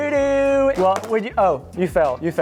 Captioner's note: iPad clacks